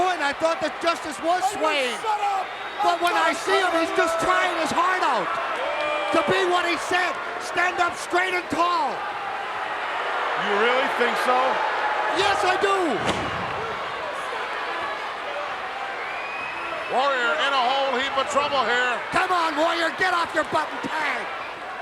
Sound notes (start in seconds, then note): 13.3 crowd yelling